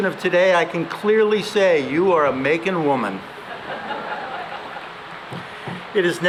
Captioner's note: laughter